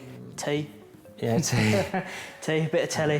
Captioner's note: chuckles